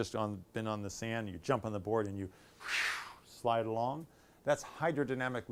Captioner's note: whooshing sound